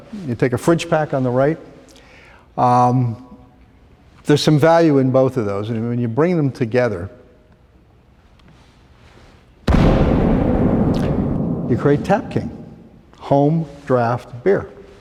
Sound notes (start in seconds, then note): 9.6 explosion